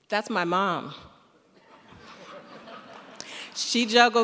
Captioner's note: laughter